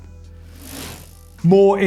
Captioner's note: bike chain whirring